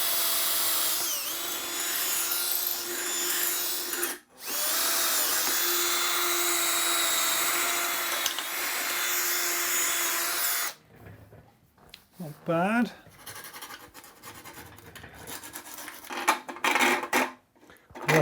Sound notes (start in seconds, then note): 15.1 file grinding